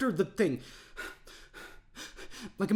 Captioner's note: deep breathing